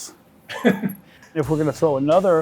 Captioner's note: chuckle